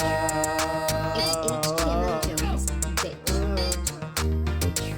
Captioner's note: automated voice